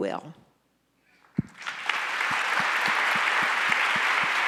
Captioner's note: audience applauds